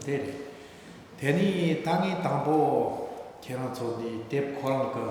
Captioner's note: speaking tibetan